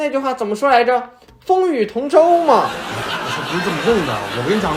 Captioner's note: crowd laughs